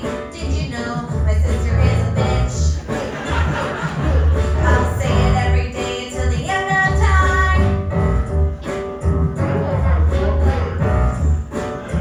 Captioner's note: beatboxing